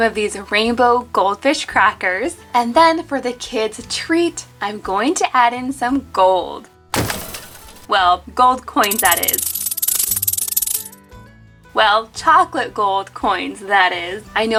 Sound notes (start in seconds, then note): 6.9 clanking; 8.8 coins clanking